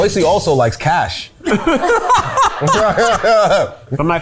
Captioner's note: laughing